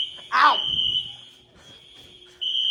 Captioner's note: sound of alarm hurts ear